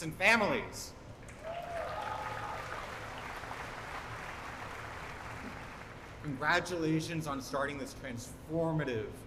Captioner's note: applause